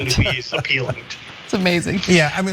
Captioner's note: laugh